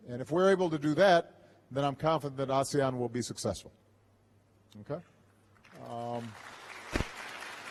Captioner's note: applause